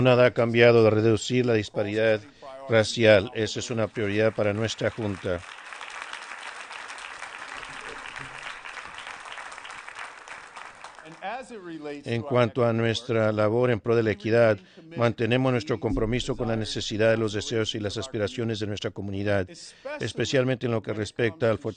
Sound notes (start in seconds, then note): 10.2 applause